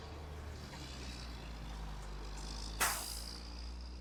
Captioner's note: cars driving